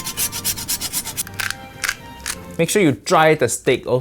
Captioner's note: pepper cracking